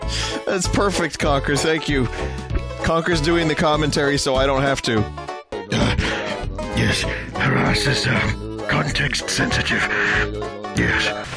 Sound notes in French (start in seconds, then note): 5.6 grognement lourd